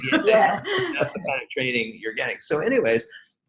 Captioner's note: laughs